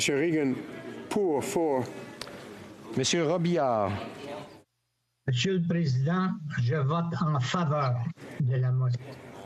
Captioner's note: speaking FRENCH